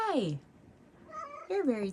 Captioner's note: meows